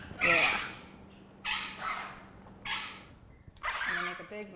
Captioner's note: birds chirping